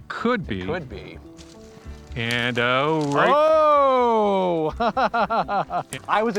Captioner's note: laughs